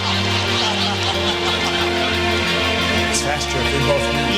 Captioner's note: audience applause and laughter